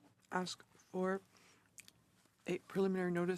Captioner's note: speaking French